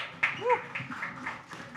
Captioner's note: audience applauds; hoots